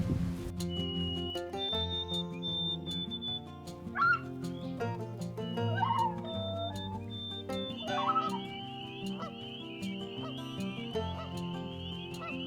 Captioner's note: animal sounds